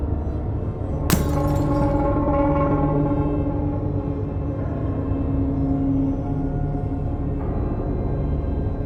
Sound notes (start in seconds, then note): 1.1 glass shatters; 3.3 deep tense music